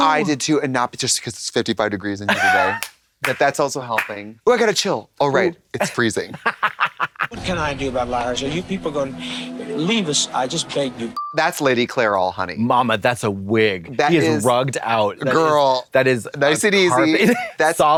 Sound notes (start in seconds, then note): 2.3 Katya har-hars and claps; 6.5 Katya cackles